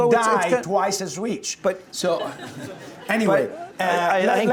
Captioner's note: laughing